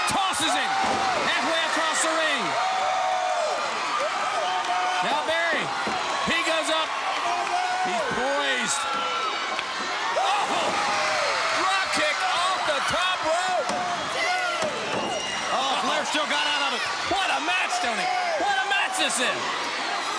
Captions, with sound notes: Tosses him. (body thudding) Halfway across the ring. Now Barry, he goes up. He's poised. (body thudding) Oh, drop kick off the top rope. (hands thudding) Oh Flair, still got outta it. What a match, Tony. What a match this is.